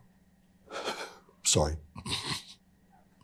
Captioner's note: exhales; inhales